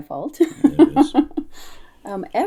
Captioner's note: laughter